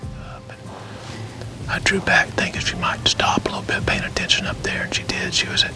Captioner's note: whispering